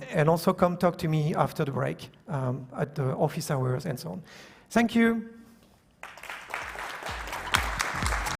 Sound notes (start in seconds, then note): 6.0 applause